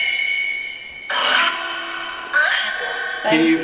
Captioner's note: robotic noises